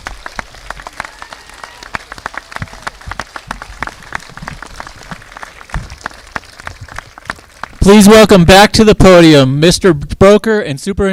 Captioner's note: applause